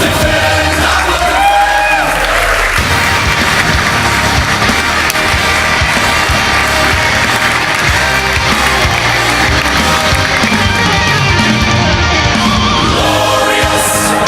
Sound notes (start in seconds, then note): 2.3 applause, cheers